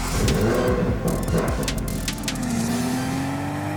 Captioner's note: engine revs